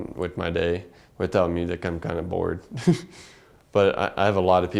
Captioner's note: laugh